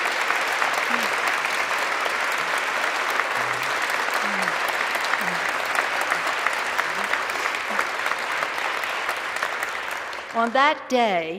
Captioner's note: applause